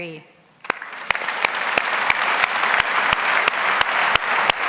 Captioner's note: audience applauds